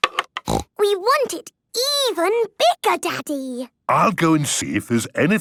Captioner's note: snorting